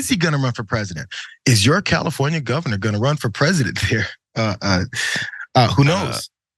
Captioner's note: laugh